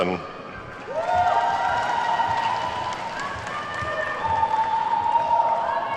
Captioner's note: attendees whooping and clapping